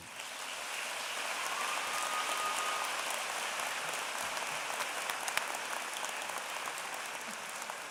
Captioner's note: applause